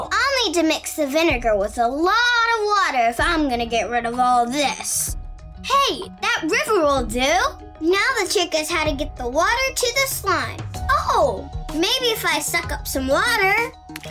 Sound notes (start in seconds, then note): none